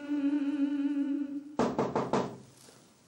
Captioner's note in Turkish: Kapı çalıyor